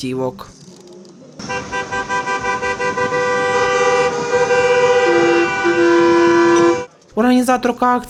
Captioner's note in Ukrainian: лунає автомобільний сигнал